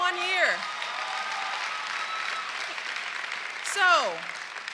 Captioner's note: cheers and applause